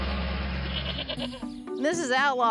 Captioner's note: animals chattering